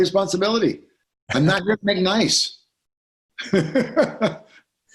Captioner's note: laughs